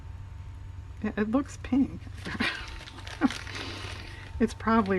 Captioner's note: laughs